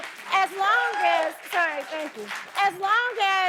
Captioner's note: audience cheering